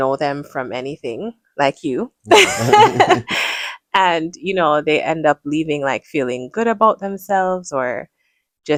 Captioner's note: laughter